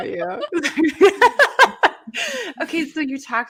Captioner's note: presenter laughing